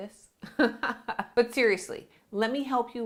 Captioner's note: laughs